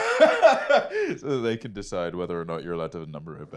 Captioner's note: laughs